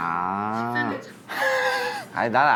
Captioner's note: chuckle💨